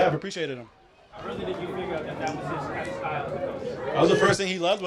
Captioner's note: crowd chattering